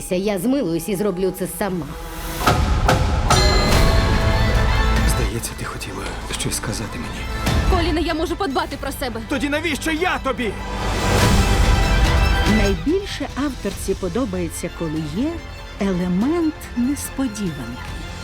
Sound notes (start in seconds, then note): 2.2 dramatic sting; 2.5 clock dings; 3.5 dramatic string music continues